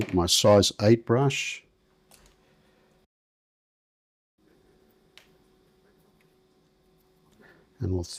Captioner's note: silence